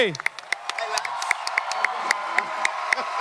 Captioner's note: audience clapping and cheering